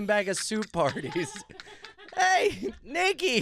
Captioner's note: laughing